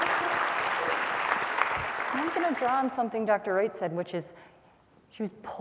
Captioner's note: applause